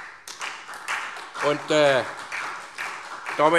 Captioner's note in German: Beifall SPD